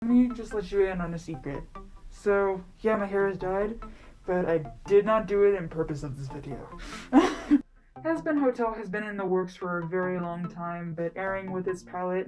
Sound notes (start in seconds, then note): 7.1 laugh